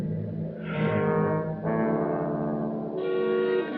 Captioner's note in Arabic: يزفر